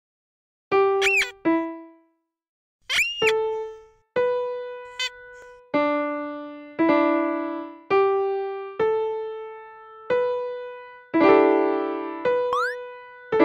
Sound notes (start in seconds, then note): 1.0 squee